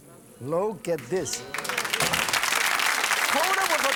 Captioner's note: applause